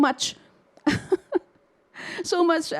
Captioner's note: laughs